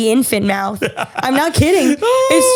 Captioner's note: laughs